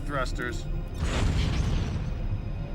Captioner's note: bang